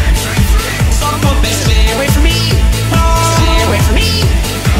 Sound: DanTDM Screaming

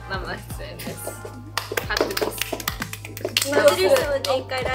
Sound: applause

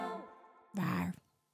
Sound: logo roars

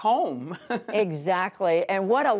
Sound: laughter

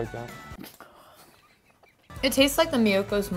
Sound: laughing

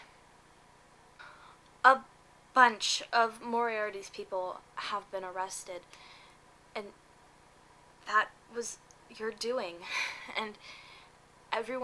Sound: breath

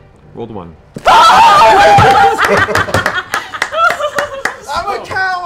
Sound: laughter

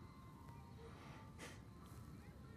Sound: sighs

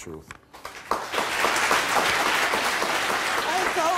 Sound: applauding

